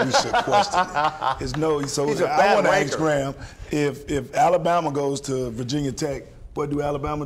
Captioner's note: laughter